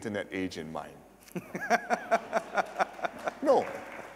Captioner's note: laughter